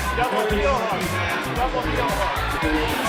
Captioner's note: cheering